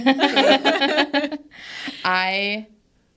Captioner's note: participants laughing